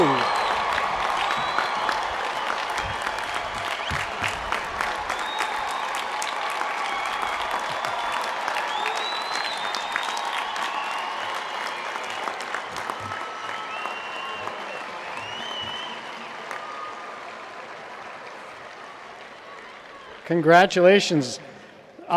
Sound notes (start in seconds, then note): 8.5 applause